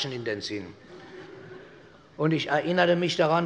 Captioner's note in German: Vereinzelt Heiterkeit